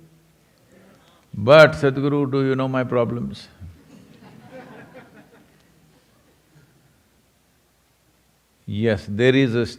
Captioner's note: laughter